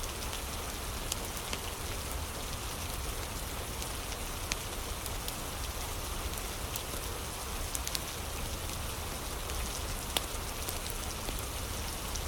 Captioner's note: fire crackling